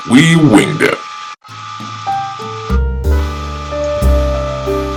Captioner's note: microwave noise